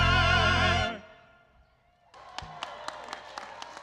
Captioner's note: applause